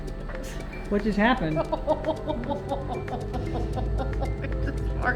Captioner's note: laughing